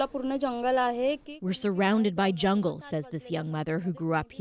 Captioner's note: speaking Foreign Language